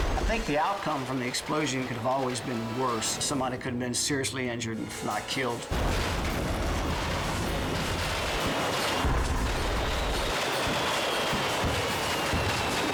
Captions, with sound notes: I think the outcome from the explosion could have always been worse. Somebody could've been seriously injured, if not killed. (fireworks exploding and whistling)